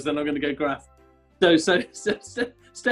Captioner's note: laughing